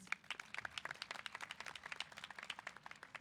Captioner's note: applause